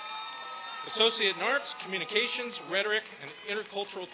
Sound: applause

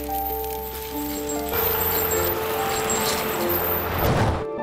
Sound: metal screeching

